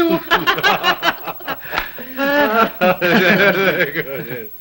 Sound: laughing

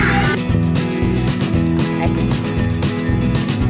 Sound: bell ringing

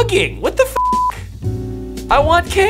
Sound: beep

